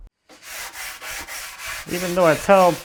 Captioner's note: sandpaper scratching